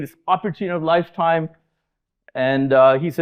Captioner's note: none